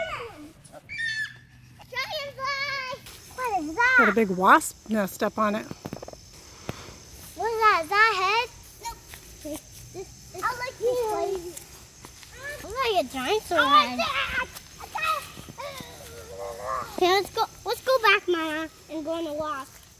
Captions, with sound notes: [screams] What is that?! It's got a big wasp's nest up on it What is that, is that a head? Nope. I like this place. Look like a dinosaur head Okay, let's go back, Mama, and go on a walk